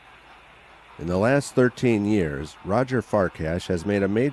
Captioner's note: voiceover